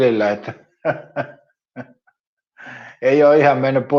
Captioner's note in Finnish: naurua